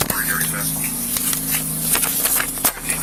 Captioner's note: papers shuffle